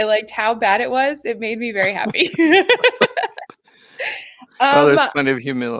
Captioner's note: laughs